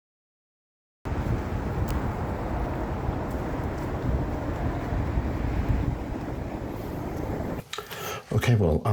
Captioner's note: street noise